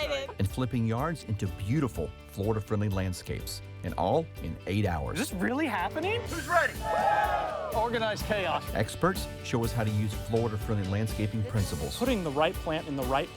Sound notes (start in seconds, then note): 6.6 cheering